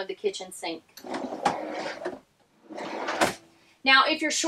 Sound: drawer sliding shut

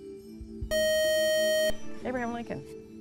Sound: buzzer

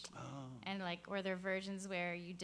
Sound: voiceover

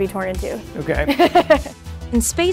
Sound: laughs

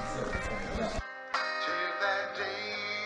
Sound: text message alert

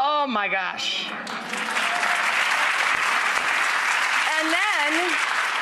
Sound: audience clapping

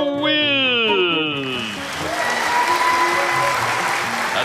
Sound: audience applauding

